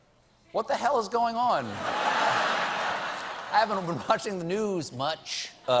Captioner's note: laughter